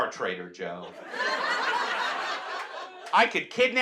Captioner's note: audience laughs